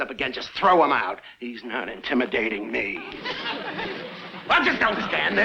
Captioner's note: audience laughs